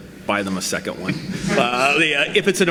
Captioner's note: audience laughs